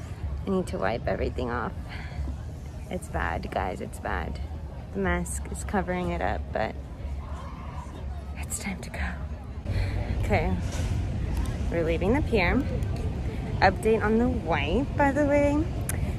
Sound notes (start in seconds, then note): none